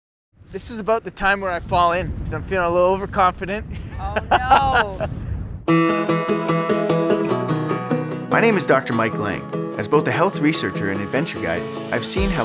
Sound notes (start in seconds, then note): 4.0 laughs; 5.6 upbeat guitar music